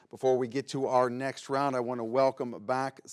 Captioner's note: none